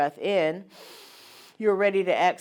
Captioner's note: breathes in heavily